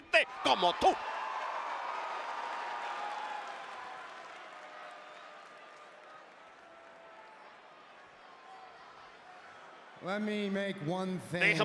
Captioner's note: applause